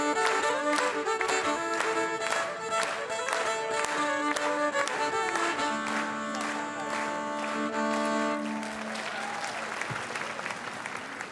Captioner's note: applause